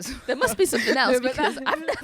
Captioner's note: chuckles